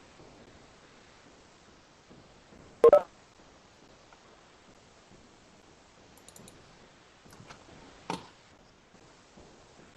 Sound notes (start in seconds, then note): 2.8 electronic ringing; 2.8 voice distorted